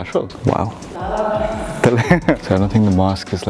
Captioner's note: laughs